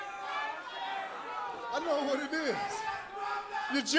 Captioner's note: crowd chatter